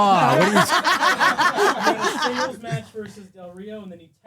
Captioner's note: laughing